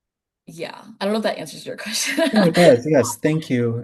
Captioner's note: laughing